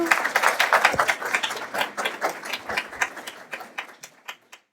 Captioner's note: audience applauding